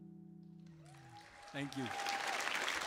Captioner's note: sings in Spanish; audience applauds and cheers